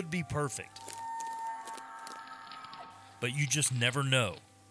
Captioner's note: elk bugles